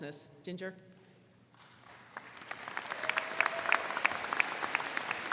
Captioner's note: crowd clapping